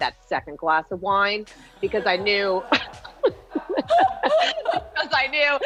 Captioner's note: both laughing